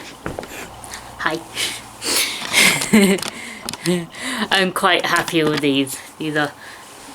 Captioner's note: laughs